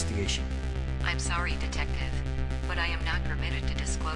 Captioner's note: drone